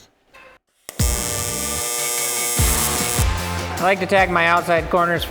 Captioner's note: upbeat music; sparks buzzing